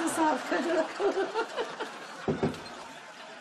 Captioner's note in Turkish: Gülme sesi